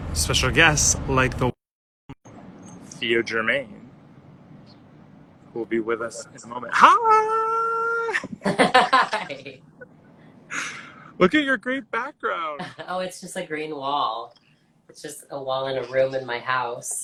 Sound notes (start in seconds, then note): 10.0 laughs